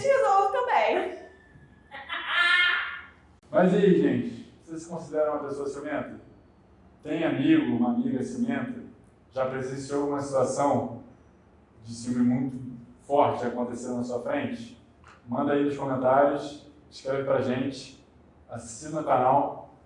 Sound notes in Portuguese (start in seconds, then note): 1.9 risos